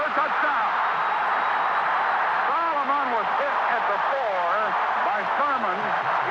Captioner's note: crowd cheering